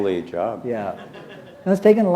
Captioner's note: laughter